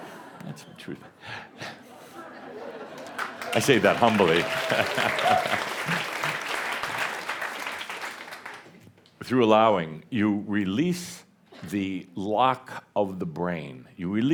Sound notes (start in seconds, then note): 6.3 audience applause